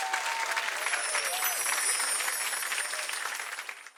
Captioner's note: chimes